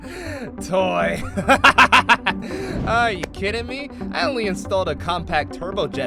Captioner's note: evil Laugh